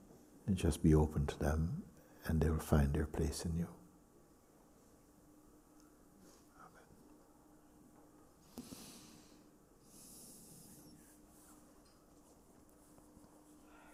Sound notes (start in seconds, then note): 8.4 long silence